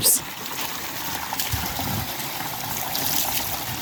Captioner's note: sound of water flowing